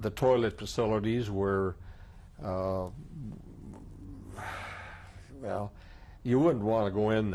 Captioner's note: sighs